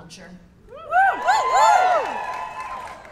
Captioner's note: cheers